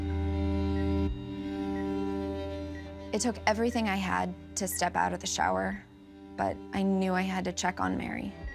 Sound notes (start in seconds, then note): 0.3 beeping